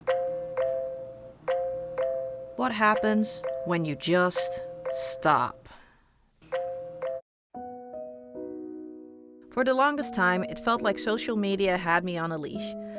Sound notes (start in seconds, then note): 1.4 phone notifications